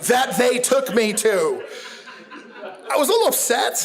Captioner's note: audience laughs